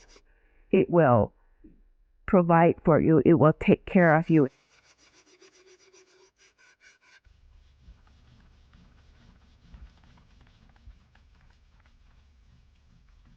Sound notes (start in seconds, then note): 5.6 sounds of sanding; 6.9 rubbing sounds